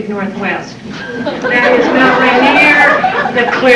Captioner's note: howling laughter